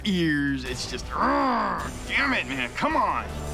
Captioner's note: growls